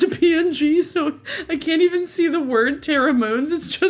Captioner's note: laughs